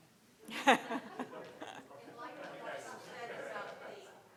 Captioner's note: crowd chattering